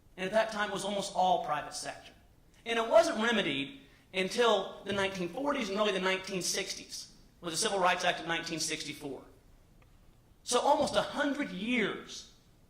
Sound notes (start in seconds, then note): none